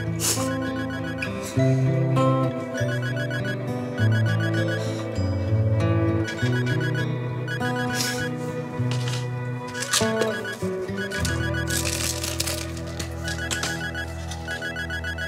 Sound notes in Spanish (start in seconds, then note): 0.3 Sollozos; 2.6 Suena el celular; 9.3 Sonido al manipular las pastillas